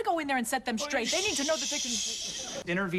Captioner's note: shushes her